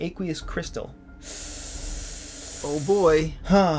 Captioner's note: takes in a big long breath to let out a short sigh